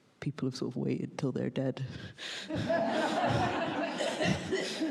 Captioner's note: laughs